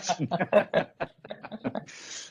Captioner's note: laughing